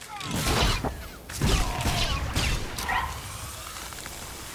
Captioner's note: gunshots